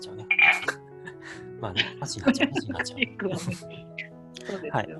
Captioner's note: laughs